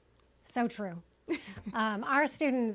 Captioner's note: chuckling